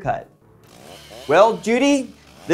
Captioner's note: chainsaw buzzing